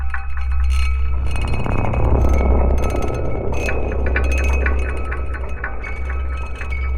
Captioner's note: brooding music; chimes continue rattling